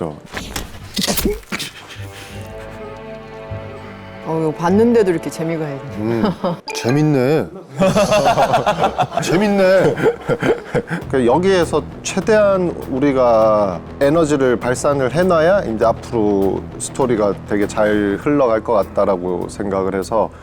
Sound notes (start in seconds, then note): 6.7 nonchalant